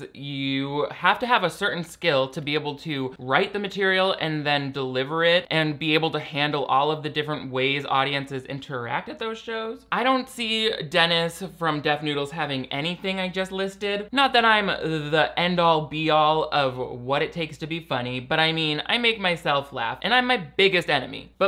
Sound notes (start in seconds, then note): none